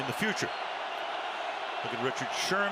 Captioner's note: cheering